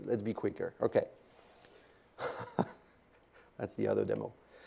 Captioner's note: laugh